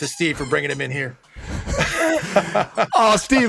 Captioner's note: laughs